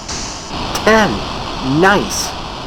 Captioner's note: explosion